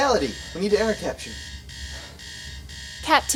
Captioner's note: alarm buzzing